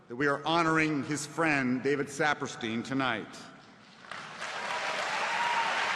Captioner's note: applause